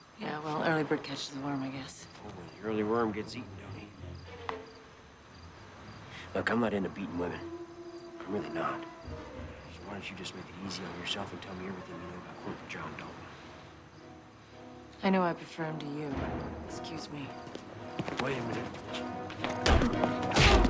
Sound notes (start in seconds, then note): 5.3 teeth clack; 19.5 punch thuds; 20.4 tense music